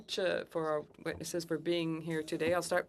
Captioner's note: speaking French